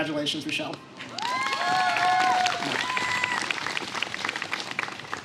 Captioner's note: applause